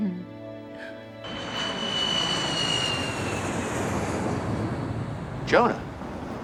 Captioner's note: plane engine roaring